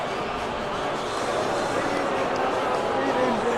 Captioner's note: audience boos